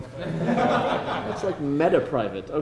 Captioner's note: laughter